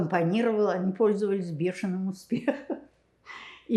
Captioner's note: laughing